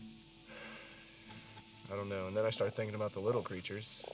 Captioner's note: sighs